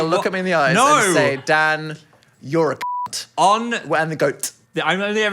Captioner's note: beep